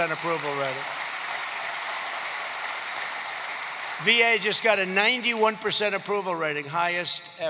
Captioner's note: applause